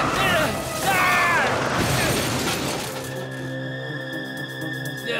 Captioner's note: scream